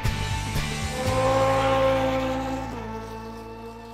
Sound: engine roars

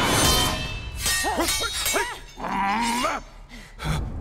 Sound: grunting

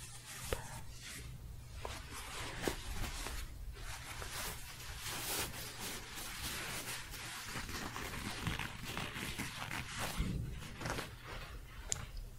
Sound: shuffling, then scratching

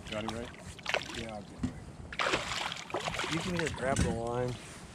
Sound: fish splashing

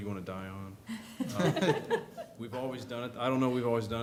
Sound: laughter

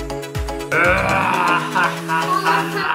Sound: growls

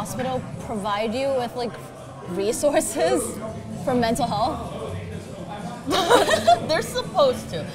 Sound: laughs

